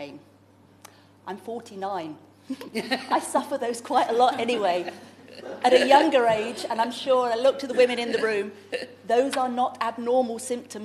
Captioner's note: laughter